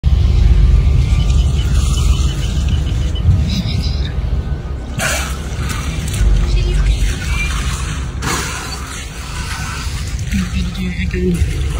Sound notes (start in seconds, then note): 0.0 noise from boat; 0.1 beeping; 4.4 background boat noise; 5.0 orca spouting water noise; 7.5 background boat noise; 7.5 orca spouting water noise; 11.5 background boat noise